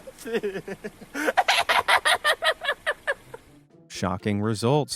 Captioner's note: laughing; shrieking